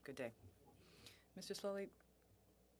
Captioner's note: speaking French